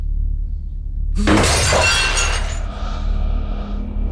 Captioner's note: estruendo